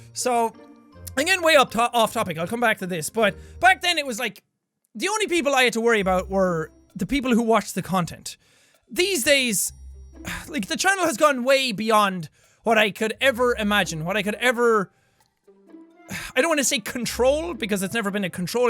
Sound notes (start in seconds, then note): 10.2 sigh